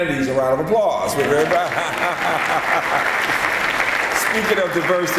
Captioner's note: applause